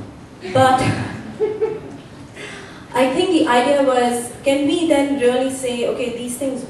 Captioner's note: laughter